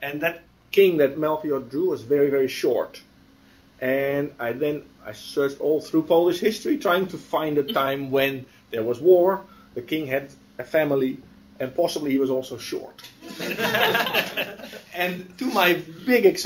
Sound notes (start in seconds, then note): 13.2 laughter